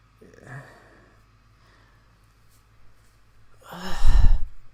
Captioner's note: sighing